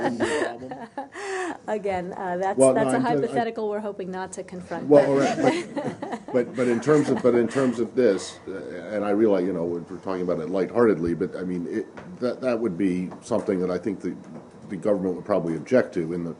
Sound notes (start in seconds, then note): 5.1 laughter